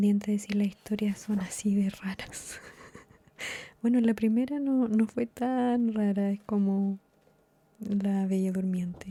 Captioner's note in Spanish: risas